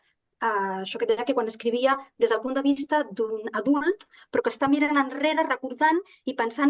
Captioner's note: continues speaking in Catalan